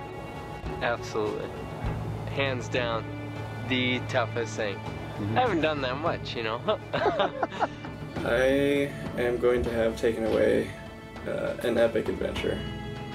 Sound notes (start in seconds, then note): 6.6 laughing